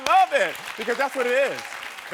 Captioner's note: audience clapping